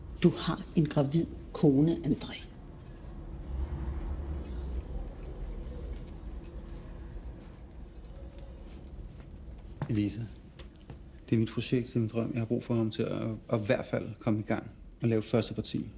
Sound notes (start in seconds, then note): none